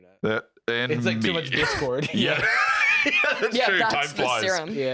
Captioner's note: laughing